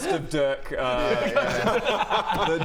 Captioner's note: remorseless giggles